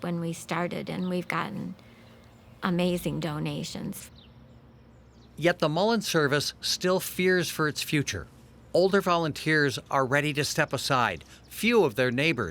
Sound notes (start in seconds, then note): 4.3 birds chirping